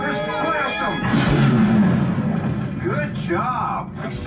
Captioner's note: booming